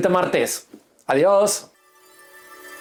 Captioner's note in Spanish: campana